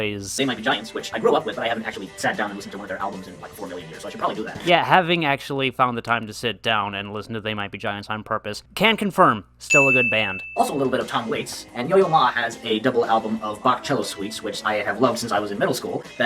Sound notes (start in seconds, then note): 9.7 ding